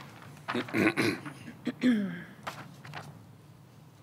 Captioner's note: clears throat